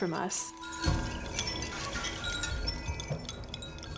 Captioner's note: tinkling